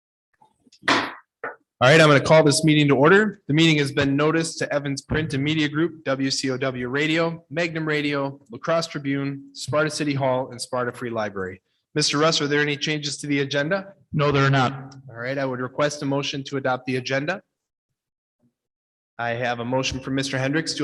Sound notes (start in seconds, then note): 0.8 gavel bangs